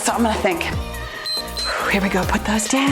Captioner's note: timer beeps